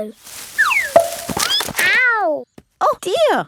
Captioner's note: thud